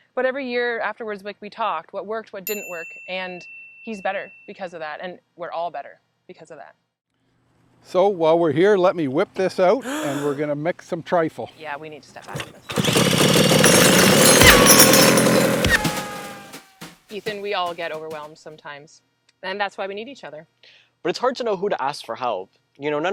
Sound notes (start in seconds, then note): 9.8 gasp; 12.6 loud mixing; 12.6 metal banging